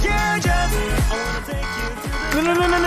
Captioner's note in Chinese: 警示聲